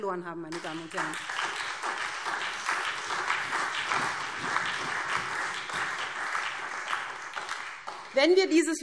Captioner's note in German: Beifall SPD, vereinzelt CDU, BÜNDNIS 90/DIE GRÜNEN und DIE LINKE